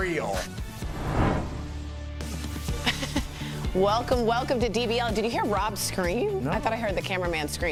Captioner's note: laughter